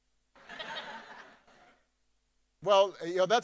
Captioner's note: audience laughing